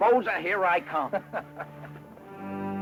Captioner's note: chuckles; ominous music